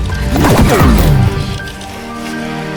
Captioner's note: sword whines; solemn music